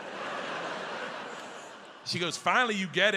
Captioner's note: audience laughs